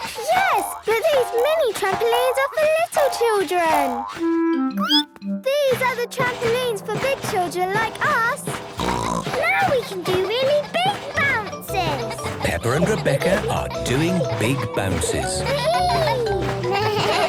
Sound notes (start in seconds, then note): 4.6 squeaks; 9.0 snorts; 15.8 giggles